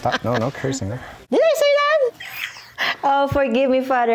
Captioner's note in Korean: 웃음